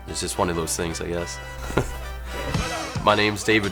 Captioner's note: chuckles